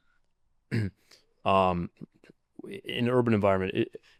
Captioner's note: clears throat